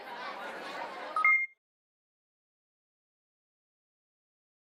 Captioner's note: crowd murmuring; chiming